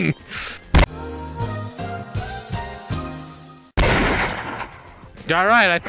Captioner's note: chuckles; gun blams